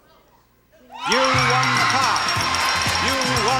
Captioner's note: audience cheering